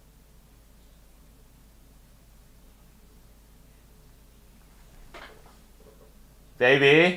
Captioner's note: silence